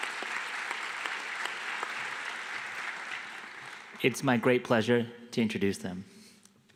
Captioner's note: applause